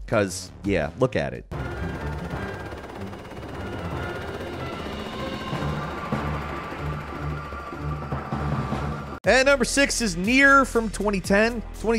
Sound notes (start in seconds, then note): 1.5 helicopter whirring; 1.5 intense music